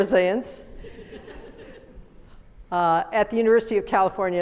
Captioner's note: audience laughs